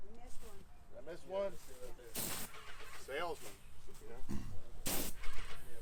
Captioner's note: laughs